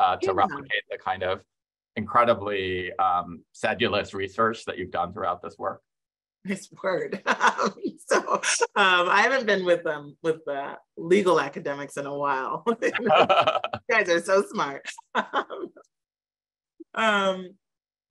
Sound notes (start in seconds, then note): 8.2 laughs; 12.9 laughing; 15.9 chuckles